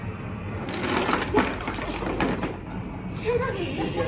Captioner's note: rocks clattering